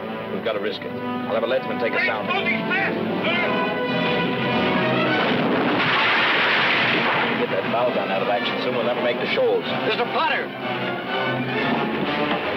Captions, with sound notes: - We've got to risk it. I'll have a leadsman take us down there- - It's closing fast, sir! (cannon roaring) (wood clattering) - Get that bow down out of action, or she'll never make the shoals. Mr. Potter!